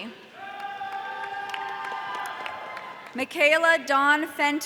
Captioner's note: audience cheering